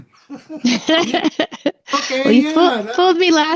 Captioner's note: both laughing